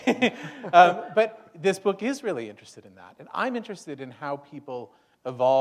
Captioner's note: chuckle